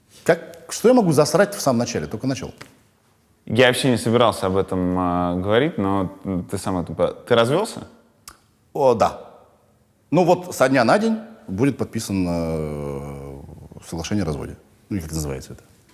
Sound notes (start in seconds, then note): none